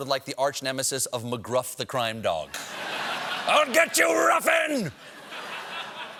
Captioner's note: laughter